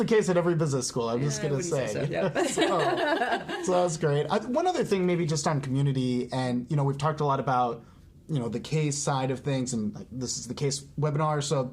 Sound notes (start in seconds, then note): 2.1 both laughing